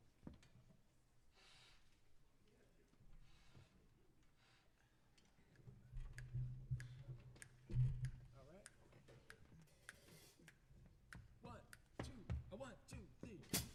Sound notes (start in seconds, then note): 6.0 fingers snapping